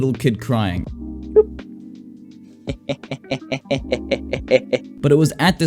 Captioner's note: insert maniacal laughter here